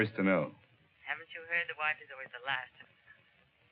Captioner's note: on phone